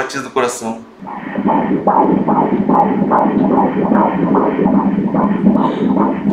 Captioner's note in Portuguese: batimentos cardíacos